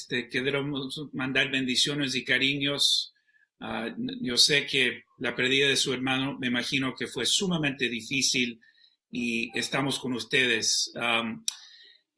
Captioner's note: spanish